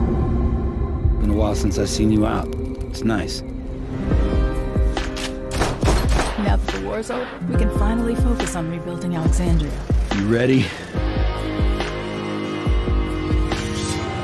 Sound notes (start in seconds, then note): 5.4 multiple gun shots; 11.5 upbeat music